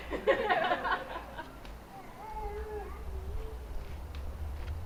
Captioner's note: laughter